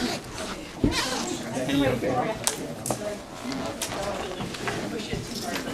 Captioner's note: groaning